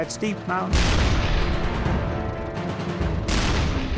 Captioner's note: cannons firing